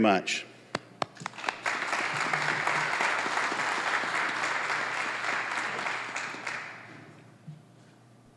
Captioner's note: applause